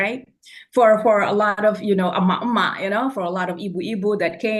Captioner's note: foreign language